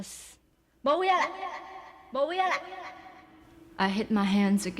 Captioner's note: speaks Taiwanese